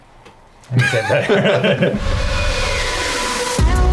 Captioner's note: laughs; upbeat pop music